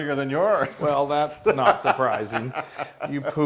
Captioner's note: laugh